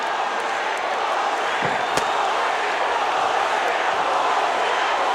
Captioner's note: crowd chants